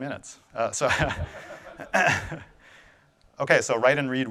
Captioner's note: audience laughing